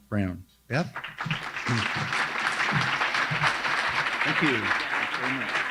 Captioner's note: crowd applauds